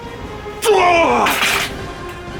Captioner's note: loud grunt